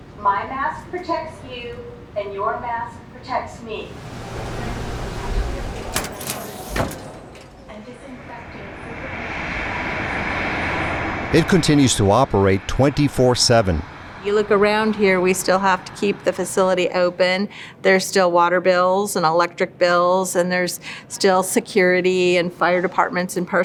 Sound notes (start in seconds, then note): 8.6 plane engine roaring